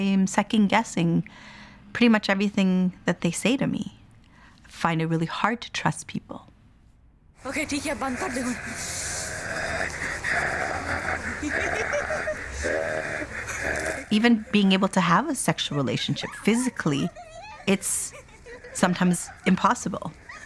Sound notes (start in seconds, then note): 7.6 speaks Punjabi; 9.0 male videographer - growling playfully